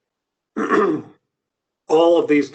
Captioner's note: clears throat